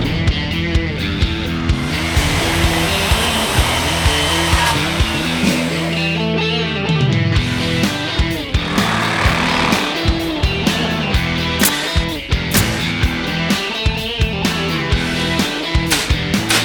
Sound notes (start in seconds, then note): 1.2 saw buzzing loudly; 11.4 nails firing powerfully